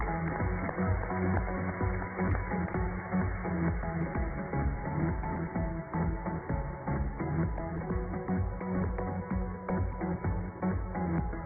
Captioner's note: applause